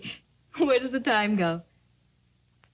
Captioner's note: chuckles